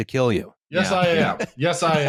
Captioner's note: laughs